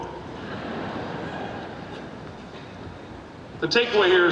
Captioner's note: audience laughing